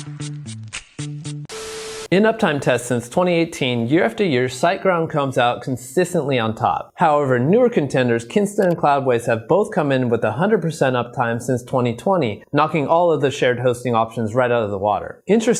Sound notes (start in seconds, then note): 1.4 audio crackling